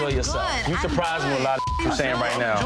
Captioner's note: beep